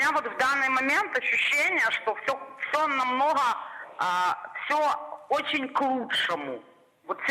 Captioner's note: speaking Russian